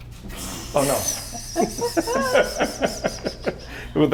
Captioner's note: laughs